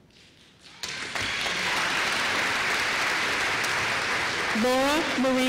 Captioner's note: applause